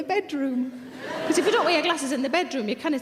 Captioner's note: audience laughing